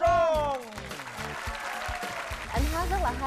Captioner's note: applause